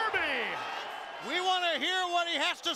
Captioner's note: crowd cheering